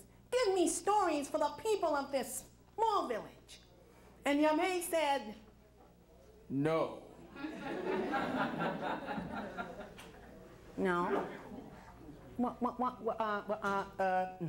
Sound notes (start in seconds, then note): 7.3 crowd laughs